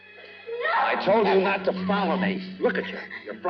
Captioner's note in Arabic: يصرخ